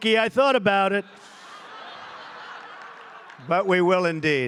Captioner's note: laughter